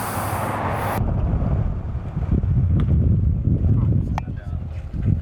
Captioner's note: loud wind blowing